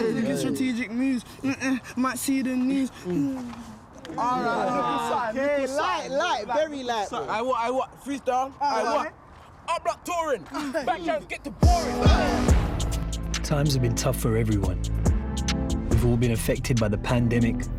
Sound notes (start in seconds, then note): 4.0 overlapping chatter; 9.6 rapping; 11.2 rap music